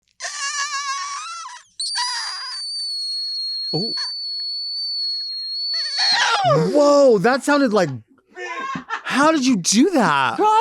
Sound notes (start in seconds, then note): 0.4 soft yelling